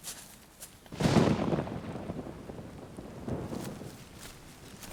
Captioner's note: thunder rumbling